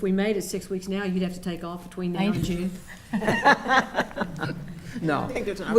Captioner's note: laughing